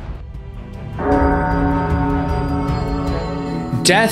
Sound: the voices collapse into a final, totalising, ominous metallic dong

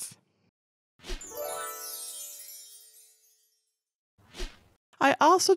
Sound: stars shimmering

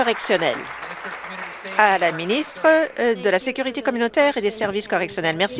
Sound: some Applause

